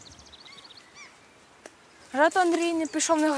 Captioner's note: birds squawking; the crunch of branches